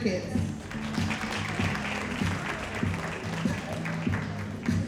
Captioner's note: audience applauding